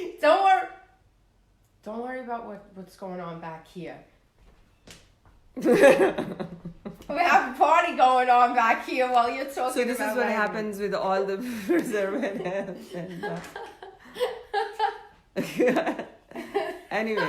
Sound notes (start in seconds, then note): 5.6 both laugh; 11.4 both laugh